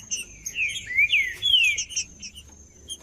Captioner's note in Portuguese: trinca ferro cantando